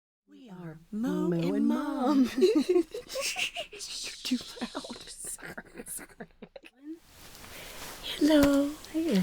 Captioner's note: laughing; laughing continues